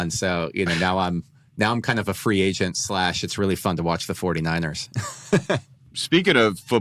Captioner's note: laughs